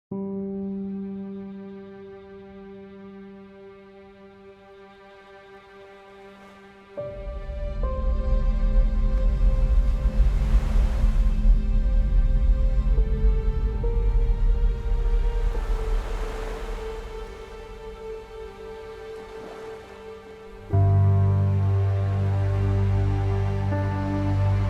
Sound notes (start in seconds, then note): 0.1 gentle piano music; 9.1 waves sloshing; 20.7 dramatic instrumental music